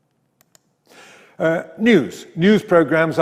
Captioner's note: mouse clicks